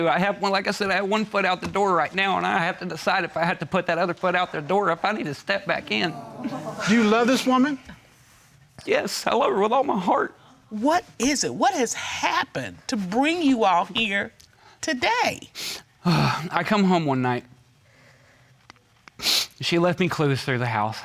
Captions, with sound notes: Like I said, I have one foot out the door right now, and I have to decide if I have to put that other foot out the door, or if I need to step back in. Do you love this woman? Yes, I love her with all my heart. What is it? What has happened to bring you all here today? (SIGHS) I come home one night... (SNIFFLES) She left me clues through the house.